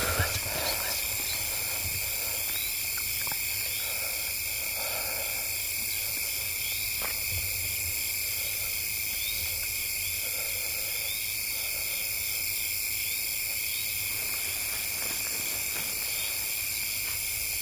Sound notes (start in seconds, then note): 2.5 crickets chirping, breathing heavy